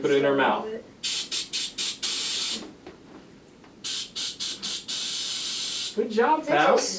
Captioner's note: air blowing